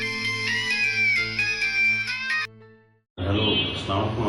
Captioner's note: phone ringing